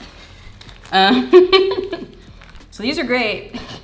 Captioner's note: laughing